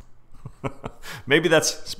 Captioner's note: chuckles